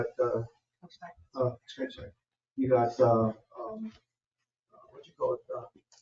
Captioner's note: people speak distantly